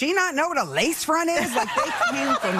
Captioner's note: audience laughing